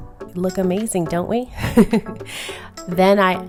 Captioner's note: laughs